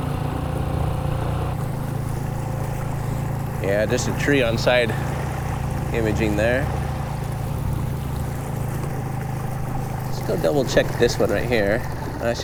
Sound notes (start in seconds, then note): 0.2 engine chugging; 0.2 water sloshing; 8.3 engine chugging; 8.3 water sloshing